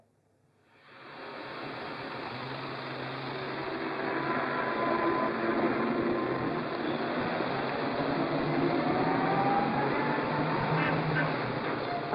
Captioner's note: city street sounds; car honks